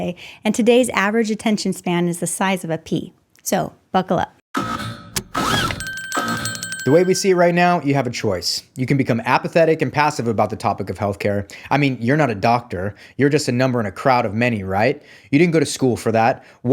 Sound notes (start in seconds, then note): 5.1 seat belt buckling